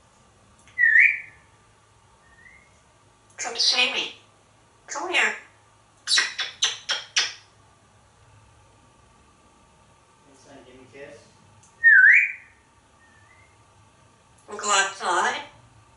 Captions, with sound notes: [Whistle] Come see me? Come here. [Kissing sounds] [Whistle] Wanna go outside?